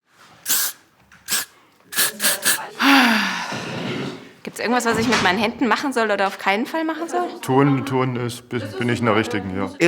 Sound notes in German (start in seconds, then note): 0.4 mehrmals kurzes Sprühen; 2.7 Seufzen